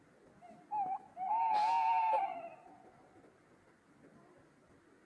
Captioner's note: owl sounds